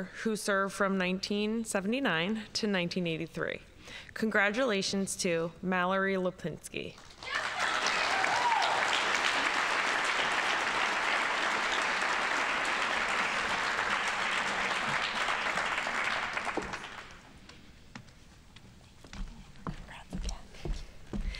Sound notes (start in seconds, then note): 7.7 audience applauding